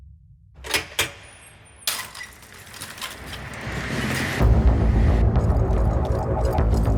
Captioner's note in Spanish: Sonido al abrir la puerta